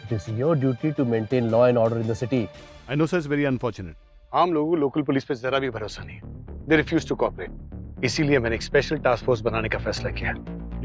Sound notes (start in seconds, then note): none